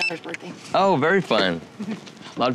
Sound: chuckles

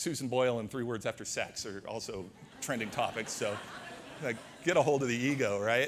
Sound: audience laughter

